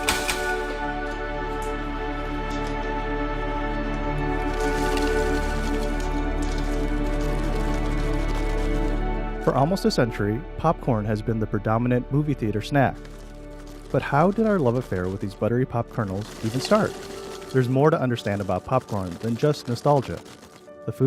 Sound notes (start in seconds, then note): 0.0 popping; 4.4 rustling